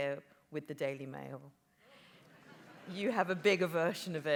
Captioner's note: audience laughs